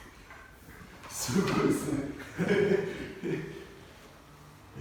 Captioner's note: laughs